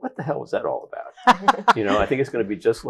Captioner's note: all laughing